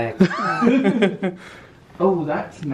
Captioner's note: both laugh